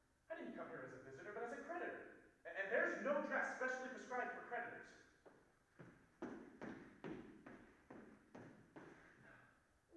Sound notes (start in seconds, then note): 5.7 footsteps approaching